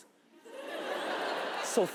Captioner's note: audience laughs